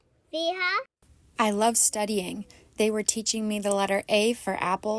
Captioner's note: through translator